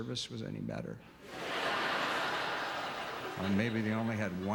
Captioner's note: audience laughter